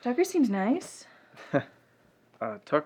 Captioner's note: Ben chuckles